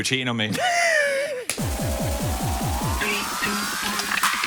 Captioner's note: laughs